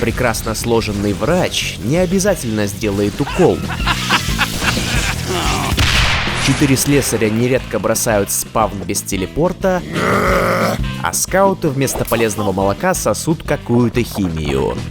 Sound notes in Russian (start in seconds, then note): 3.2 смеется; 5.8 взрыв; 9.8 звуки недовольства